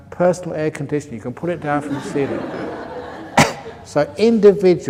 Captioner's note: laughter